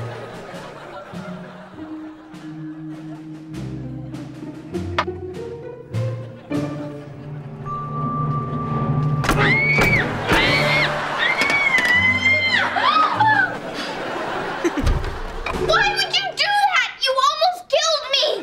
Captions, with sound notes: [screaming] [laughing] Why did you do that? You almost killed me.